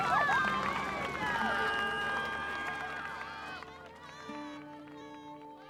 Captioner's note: cheering